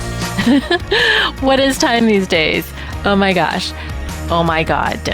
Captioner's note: laughs